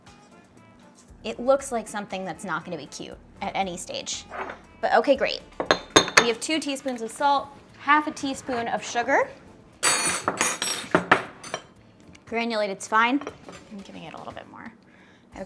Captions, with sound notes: It looks like something that's not going to be cute at any stage, but okay, great. We have two teaspoons of salt, half a teaspoon of sugar. (utensils clattering) (quiet upbeat music) Granulated's fine. I'm giving it a little bit more.